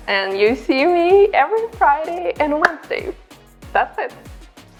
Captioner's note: claps